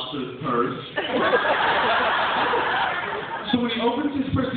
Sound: laughter

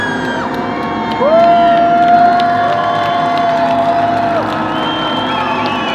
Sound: crowd cheers and applauds

